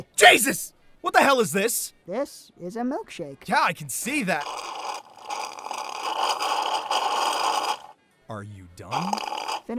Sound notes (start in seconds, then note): 4.0 slurp